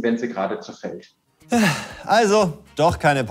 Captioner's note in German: Seufzen